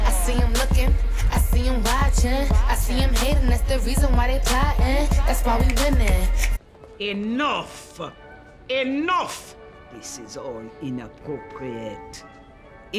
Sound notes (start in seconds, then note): 6.6 snapping